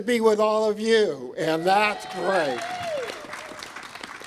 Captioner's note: applause